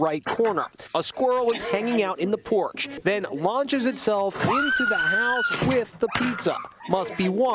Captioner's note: screaming